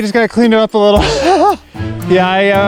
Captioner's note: chuckles